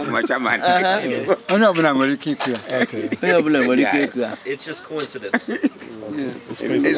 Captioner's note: laugh